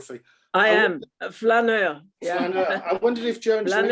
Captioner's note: laughing